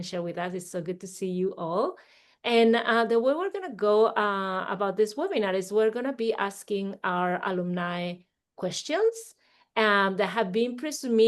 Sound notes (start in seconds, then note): none